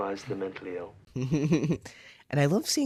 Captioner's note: laugh